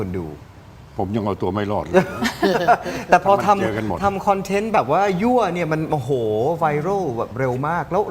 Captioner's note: laughs